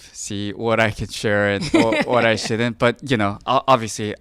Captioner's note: laughing